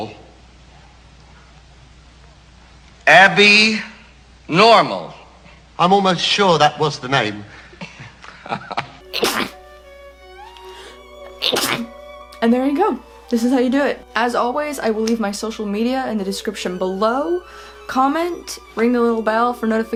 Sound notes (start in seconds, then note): 7.8 laughs sarcastically; 9.0 sneeze x2